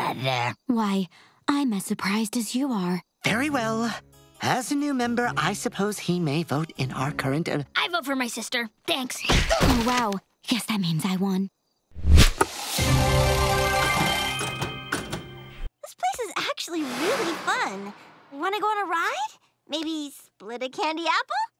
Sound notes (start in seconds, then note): none